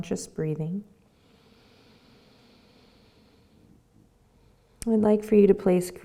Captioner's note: breathes deeply